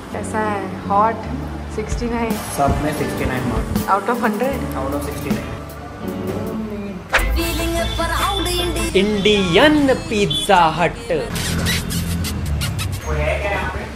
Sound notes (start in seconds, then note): 10.8 weird smooching noises